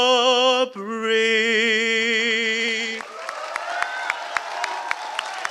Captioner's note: applause